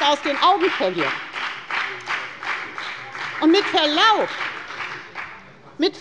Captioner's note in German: Beifall bei der FDP - Vizepräsident Dr. Ulrich Wilken übernimmt den Vorsitz